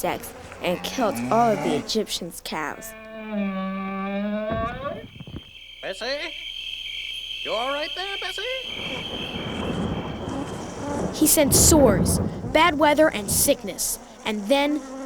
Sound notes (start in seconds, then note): 8.3 kaboom